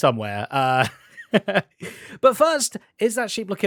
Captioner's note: laughs